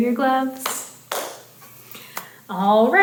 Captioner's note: hands clapping